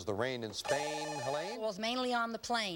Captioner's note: buzzer